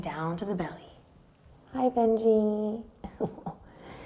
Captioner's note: chuckles